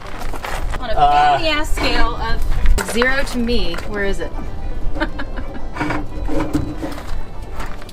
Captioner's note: laughing